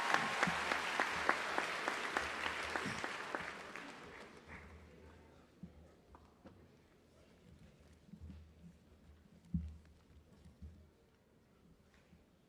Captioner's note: applause